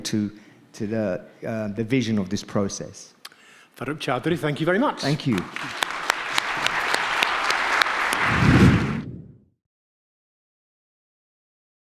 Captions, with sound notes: to the vision of this process. - Farooq Chaudhry, thank you very much. - Thank you. (audience clapping) (air swooshing)